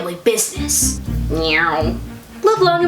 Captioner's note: lightsaber sound